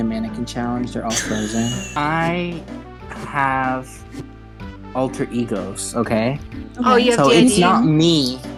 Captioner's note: laughing